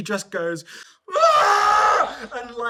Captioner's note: screams